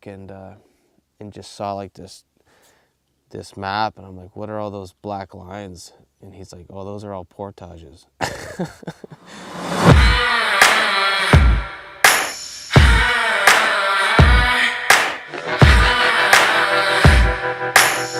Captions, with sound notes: after work and just saw this map and I'm like what are all those black lines and he's like, "Well those are all portages." (laugh) (energetic music)